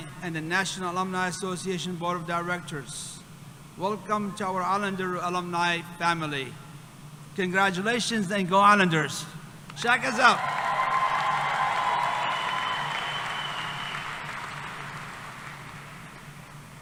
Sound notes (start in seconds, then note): 10.1 cheering; 14.5 applause